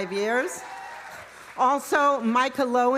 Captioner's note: audience cheering; audience applauding